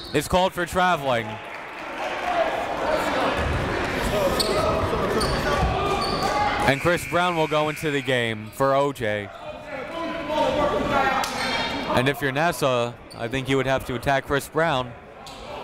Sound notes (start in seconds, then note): 1.9 crowd talking